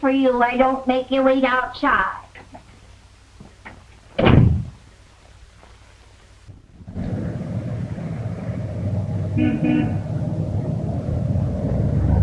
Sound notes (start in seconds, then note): 7.0 engine rumbling; 9.2 horn honks